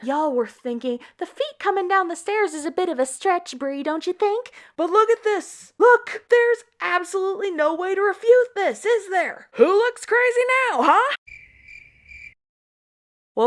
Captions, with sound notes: Y'all were thinking, 'the feet coming down the stairs is a bit of stretch, Bre, don't you think?' But look at this! Look! There's absolutely no way to refute this, is there? Who looks crazy now, huh?!?! *crickets*